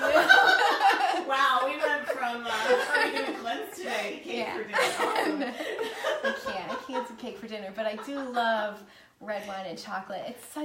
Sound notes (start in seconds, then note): 0.0 laughing; 4.3 muttering and laughing